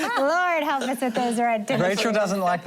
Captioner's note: laughter